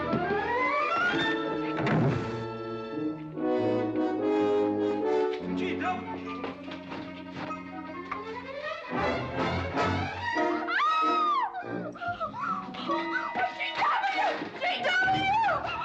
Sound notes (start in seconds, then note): 10.6 Katherine screaming